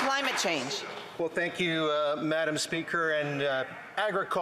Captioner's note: some Applause